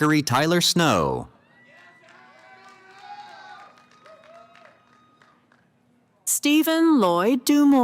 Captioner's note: cheering